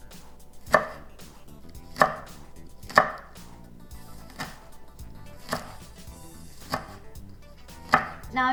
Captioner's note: chopping